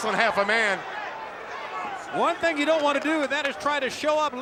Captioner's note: applause